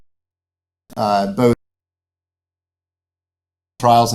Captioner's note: microphone audio cuts out